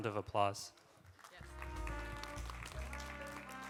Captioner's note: applause